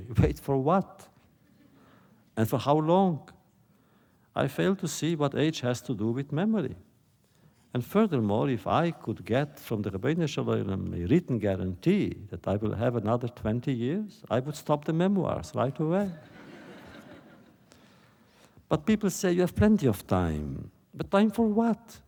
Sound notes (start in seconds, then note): 10.1 Yiddish; 16.1 laughter